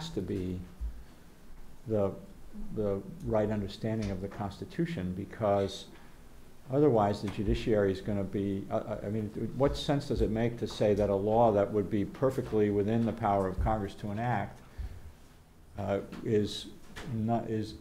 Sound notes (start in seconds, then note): none